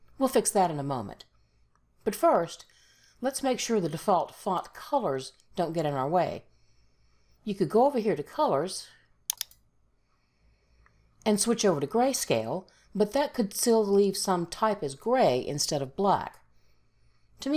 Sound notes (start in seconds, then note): 9.3 mouse clicks